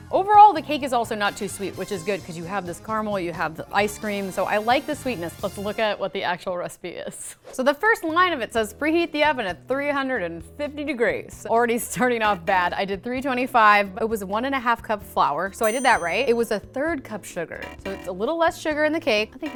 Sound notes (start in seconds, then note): 15.6 bell dings; 15.6 negative beep